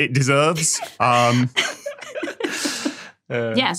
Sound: guests giggling

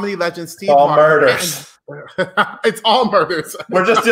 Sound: laughs

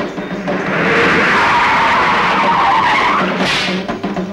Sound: tires Screeching

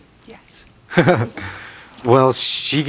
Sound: laughs

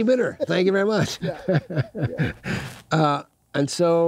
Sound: laughs

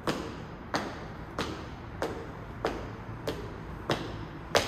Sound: my powerful footsteps

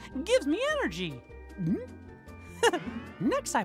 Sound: gulps

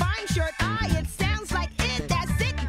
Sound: makes short "i" sound

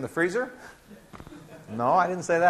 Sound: laughing

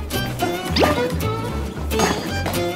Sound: flapping

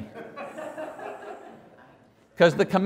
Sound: congregation Laughing

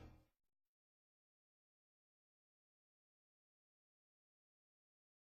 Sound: silence

